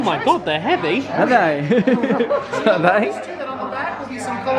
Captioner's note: laughs